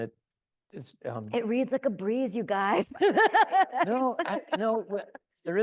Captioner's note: laughs